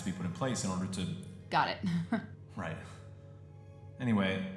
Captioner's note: chuckle